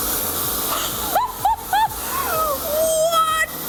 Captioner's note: laughs